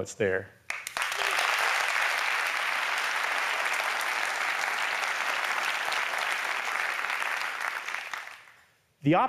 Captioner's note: applause